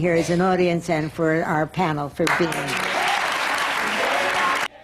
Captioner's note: applause